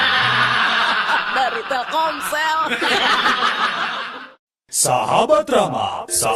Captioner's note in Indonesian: tertawa